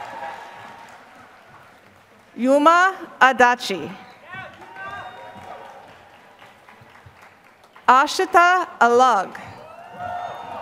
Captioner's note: applause